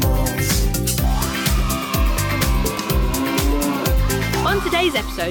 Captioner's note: children cheering